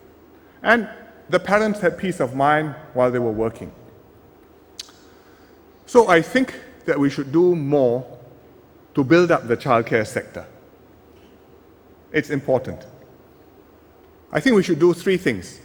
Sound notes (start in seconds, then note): none